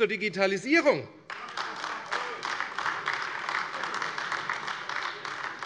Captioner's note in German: Beifall AfD